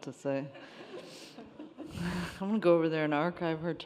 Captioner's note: attendees laughing